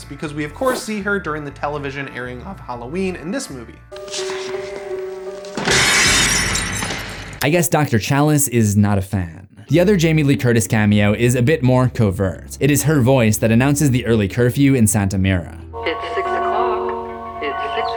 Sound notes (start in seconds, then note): 7.3 creepy music begins; 7.3 glass breaking